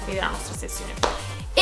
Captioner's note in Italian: sbatte le mani